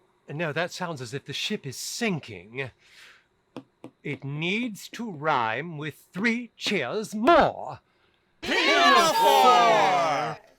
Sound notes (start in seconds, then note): 3.8 finger tapping